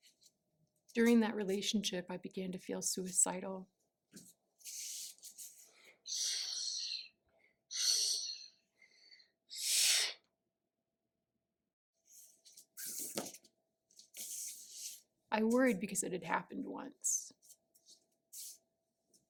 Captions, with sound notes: During that relationship I began to feel suicidal. [Air/breathing sounds] I worried because it had happened once.